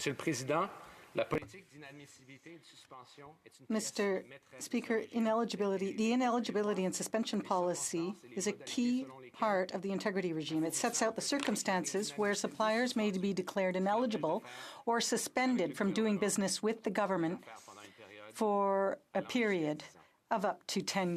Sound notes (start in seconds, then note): 3.5 speaking French